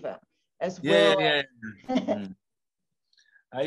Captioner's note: laughing